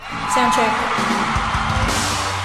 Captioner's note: audience screaming; rock music